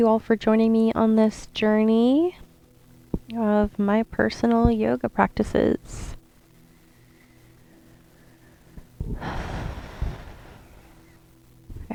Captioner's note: exhale